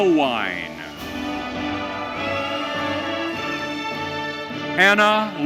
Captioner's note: audience cheering